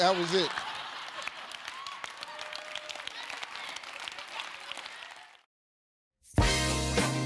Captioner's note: audience laughs; audience applauds